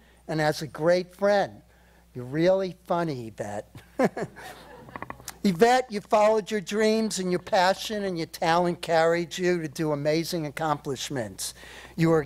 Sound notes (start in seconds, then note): 4.0 laughs